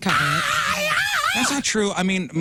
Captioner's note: screaming